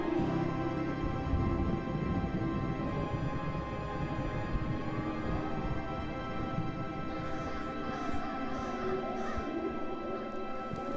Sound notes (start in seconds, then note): 6.1 thunder rumbles; 9.3 birds caw